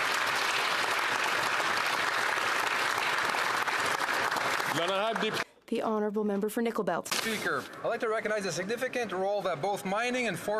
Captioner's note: applause